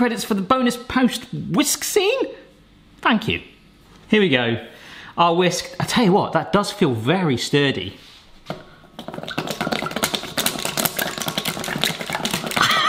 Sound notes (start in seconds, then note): 8.9 whisking